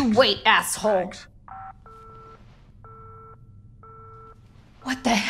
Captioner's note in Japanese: 電話が切れる